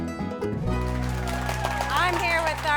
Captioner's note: upbeat country music; audience applauding